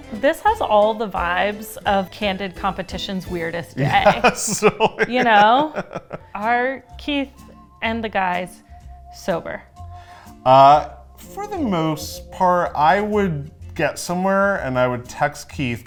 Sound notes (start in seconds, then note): 3.6 laughing